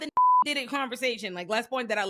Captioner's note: beep